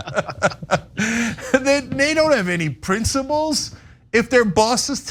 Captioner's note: laugh